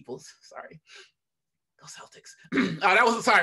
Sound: whispering

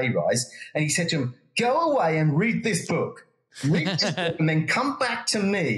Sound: laugh

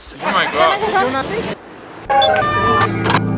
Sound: chatter in Spanish

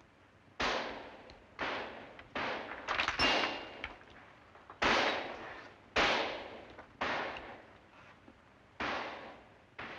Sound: gunfire

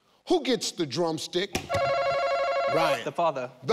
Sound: buzzer ringing

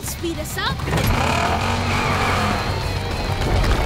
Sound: revving

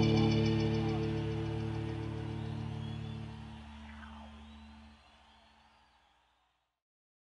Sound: crowd cheers

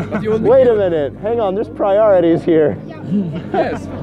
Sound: laughing

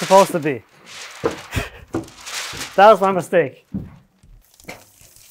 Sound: laughs

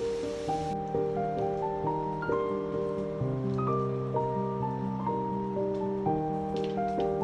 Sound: expressive piano music; trees gently cracking

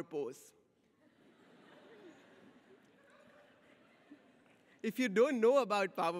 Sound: audience laughs

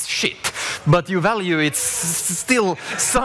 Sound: audience laughs

